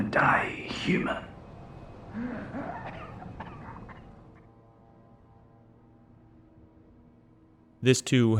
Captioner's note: coughing